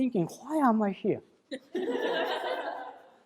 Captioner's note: laughter in crowd